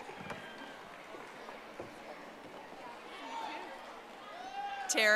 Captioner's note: audience applauding